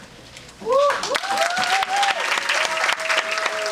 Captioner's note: audience applauding